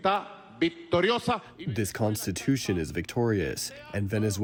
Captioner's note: through translator